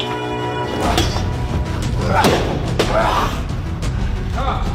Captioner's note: grunting